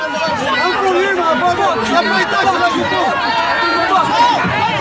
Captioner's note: spits